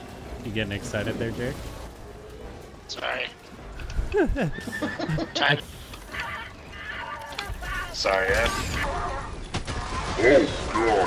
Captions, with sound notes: You getting excited there Jake? Sorry (Laughing) Sorry I-